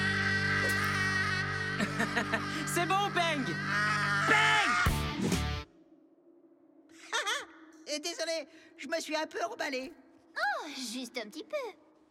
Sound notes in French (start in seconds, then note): 0.6 il rigole; 3.6 continue de crier